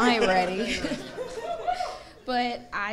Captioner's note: audience laughing